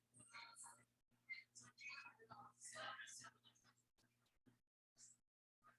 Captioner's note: people chattering indistinctly